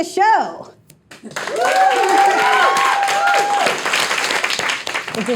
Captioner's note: audience applauding